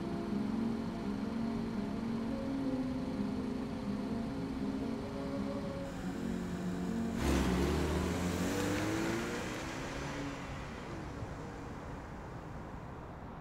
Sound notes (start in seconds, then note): 0.2 music muffled outside car; 5.9 engine revs as she speeds away